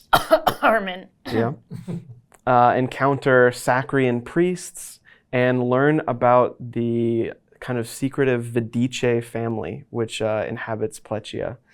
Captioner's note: cough